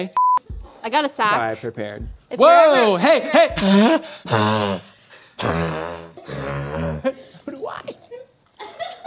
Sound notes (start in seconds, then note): 3.7 silly Laugh